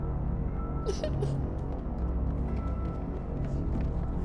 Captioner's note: Olivia cries